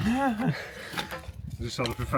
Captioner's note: laughing